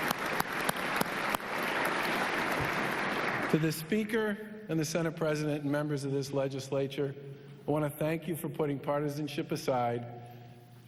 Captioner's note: applause